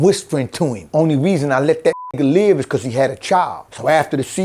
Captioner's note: beep